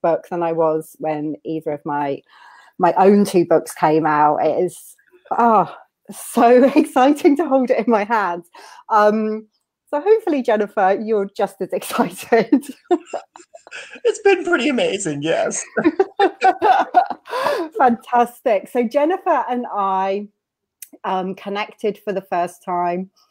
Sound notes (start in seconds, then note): 12.6 laughs; 16.0 laughing